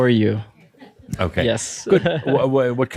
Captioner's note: he chuckles